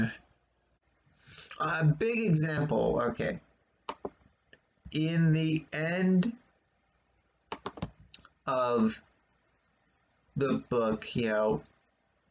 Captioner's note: click of computer's trackpad